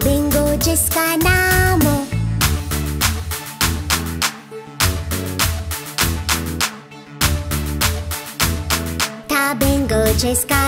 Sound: clap

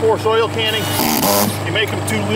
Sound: drill rattling

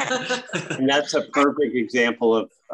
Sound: all laugh

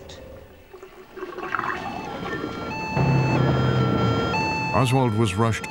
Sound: siren blaring

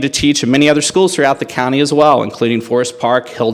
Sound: none

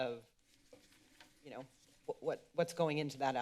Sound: rustling sound

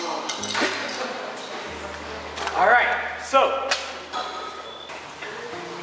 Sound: kazoo Hits Ground

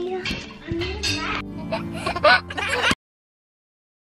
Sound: giggles

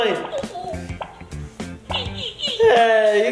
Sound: popping

